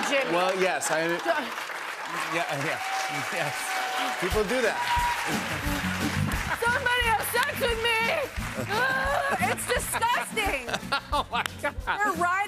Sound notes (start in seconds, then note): 4.8 cheers and applause; 8.4 groans